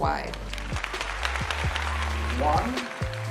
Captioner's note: audience clapping